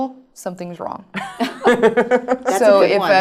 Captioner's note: laugh